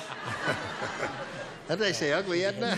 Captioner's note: laughter